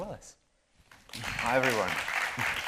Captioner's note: audience applauding